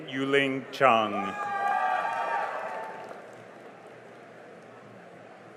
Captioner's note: cheering and applause